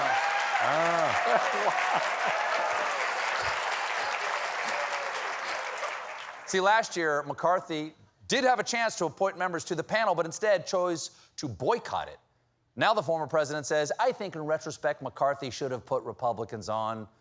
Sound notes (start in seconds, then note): 0.0 laughter; 3.6 cheers and applause